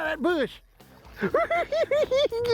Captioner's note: cackling